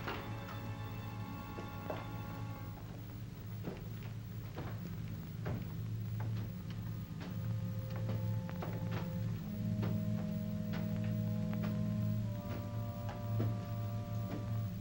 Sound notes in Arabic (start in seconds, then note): 0.0 صوت الباب يطرق في الطابق السفلي; 0.0 موسيقى مشؤومة; 2.7 خطوات على الدرج; 3.6 موسيقى مشؤومة